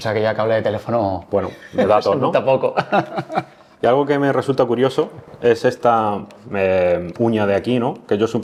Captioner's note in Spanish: risas